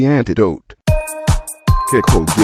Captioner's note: NBC Ringtone